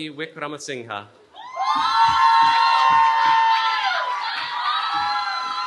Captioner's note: cheering